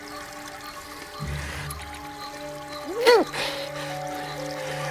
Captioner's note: gasps; groaning